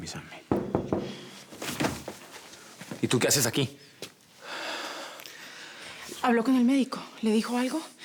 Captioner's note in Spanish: Toques en la puerta